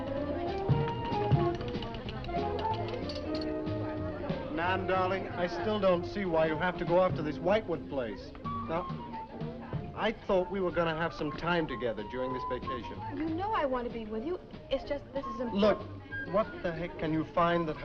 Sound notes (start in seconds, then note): 0.7 upbeat music; 2.3 people chattering